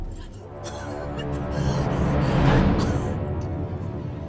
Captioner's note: coughing